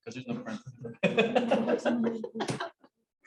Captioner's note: laughs